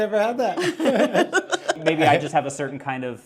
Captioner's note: laughs